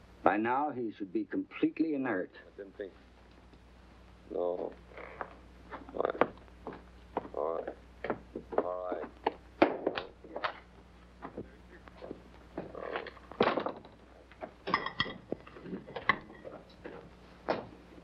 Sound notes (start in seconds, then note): 12.6 moaning; 14.3 pots rattling